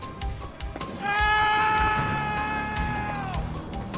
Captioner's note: man screaming